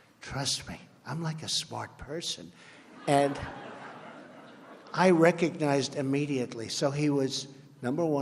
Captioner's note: laughter